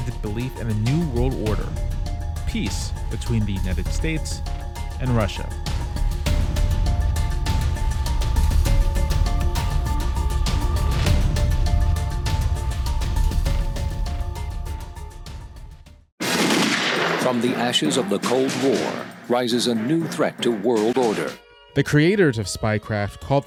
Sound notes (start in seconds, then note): 16.2 gunshot sound